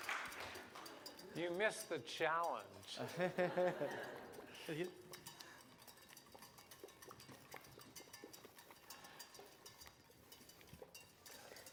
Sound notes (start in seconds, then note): 3.0 laughter